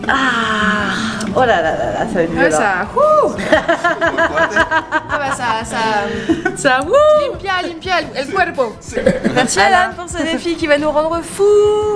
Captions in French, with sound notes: Aaaahhh...Oh là là là là...ça va être violent ! Ah ouais, ça...ouhhhhh !! (rires) Ca nettoie bien l'organisme ! Merci Allan pour ce défi qui va nous rendre fouuuuuuus